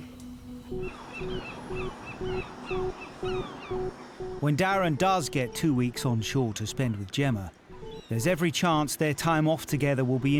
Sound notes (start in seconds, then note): 0.7 gentle music; 0.8 seagulls squawking